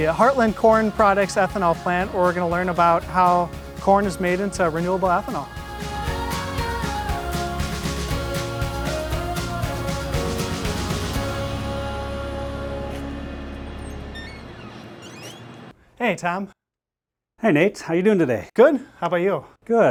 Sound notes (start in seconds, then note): 12.9 door creaks